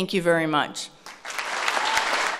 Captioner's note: applause